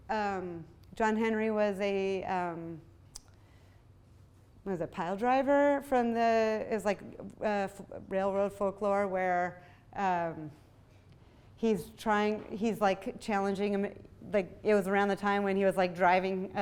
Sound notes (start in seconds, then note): none